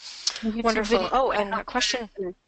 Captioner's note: voiceover